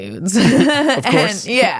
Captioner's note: laughs